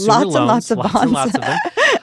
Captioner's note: chuckles